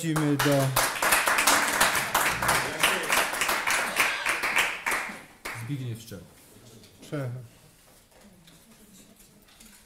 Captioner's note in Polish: Aplauz